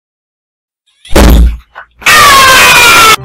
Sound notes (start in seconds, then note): 1.9 screams in spanish